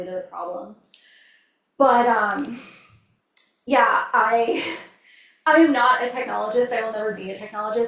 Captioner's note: laughs